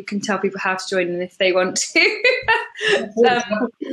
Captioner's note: laughs